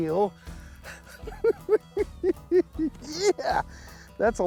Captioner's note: giggles